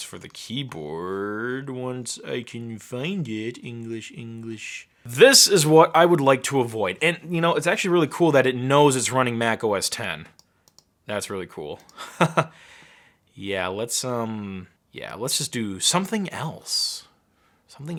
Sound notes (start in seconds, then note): 11.9 chuckling